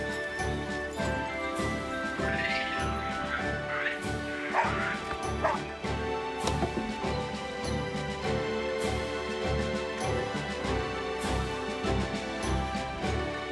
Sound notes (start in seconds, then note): 1.2 chittering; 3.3 Patch barking